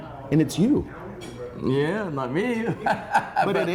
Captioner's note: laughing